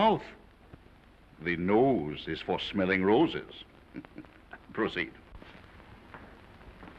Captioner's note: chuckles